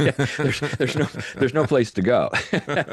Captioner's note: laughs